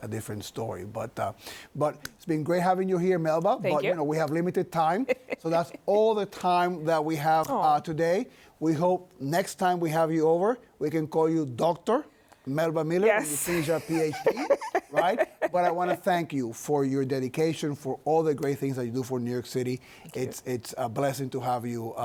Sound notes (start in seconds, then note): 13.3 laughs